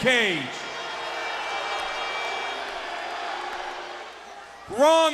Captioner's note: crowd booing